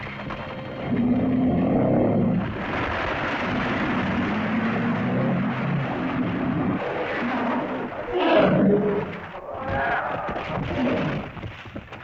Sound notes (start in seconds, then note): 0.0 rocks rumbling; 0.0 tense music; 0.0 rocks rumbling; 0.9 lizard moans; 8.1 lizard cries out; 8.1 rocks rumbling; 8.1 tense music